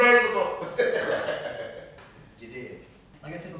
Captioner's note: laughing